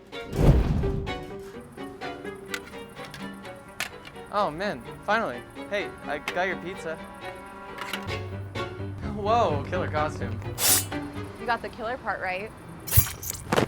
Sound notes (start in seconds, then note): 0.2 cape whooshes; 2.0 gentle dramatic music continues; 10.5 sword swishes; 13.4 box thuds